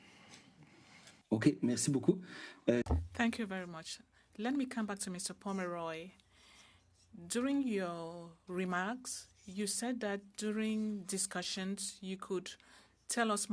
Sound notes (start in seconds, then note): 9.5 speaking French